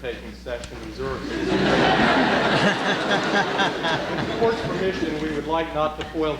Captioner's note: laughter